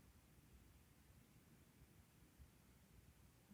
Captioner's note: none